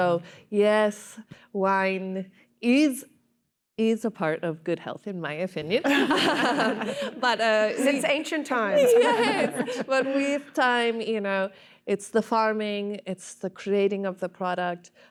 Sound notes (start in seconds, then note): 8.6 laughter